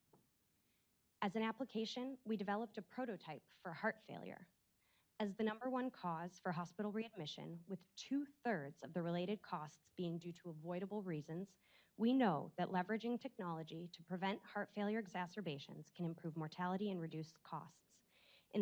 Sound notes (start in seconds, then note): none